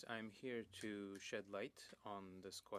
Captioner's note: speaking French